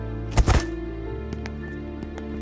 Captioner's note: thud